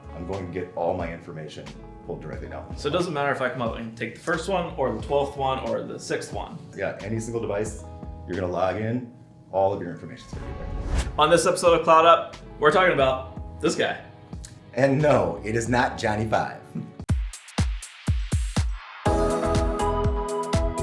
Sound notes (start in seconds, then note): 10.3 swooshing; 17.1 pulsing electronic music